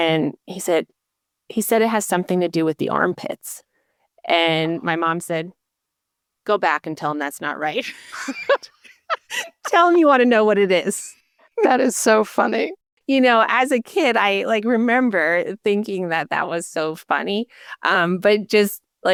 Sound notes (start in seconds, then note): 7.8 laughter